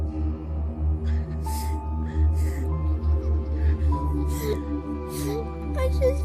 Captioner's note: crying